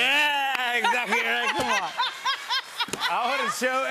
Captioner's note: laughter